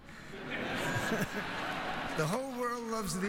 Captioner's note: laughter